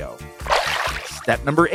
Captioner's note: water splashes